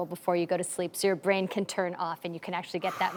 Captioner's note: sighs